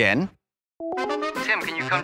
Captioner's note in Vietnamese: tiếng chuông điện thoại